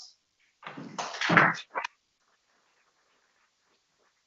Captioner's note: people clapping